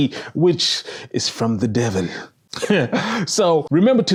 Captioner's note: laughs